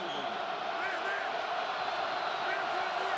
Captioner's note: crowd cheering